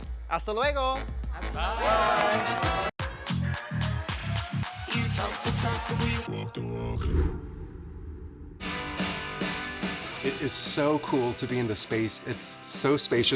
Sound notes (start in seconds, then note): 1.4 upbeat music; 6.9 image whooshes; 10.1 upbeat music